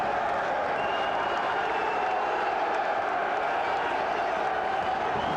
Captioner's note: crowd cheers